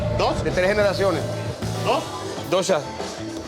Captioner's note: spanish speech